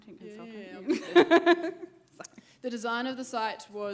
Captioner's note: laughing